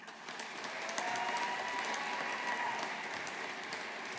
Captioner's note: audience applauding